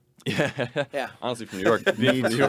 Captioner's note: laughing